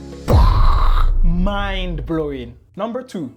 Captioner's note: boom